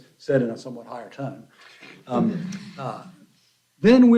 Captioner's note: laughter